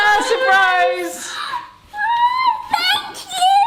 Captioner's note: laughs; gasps